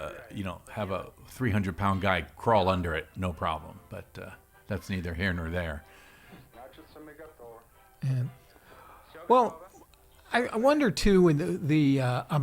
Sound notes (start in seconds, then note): 6.5 soldier speaking Russian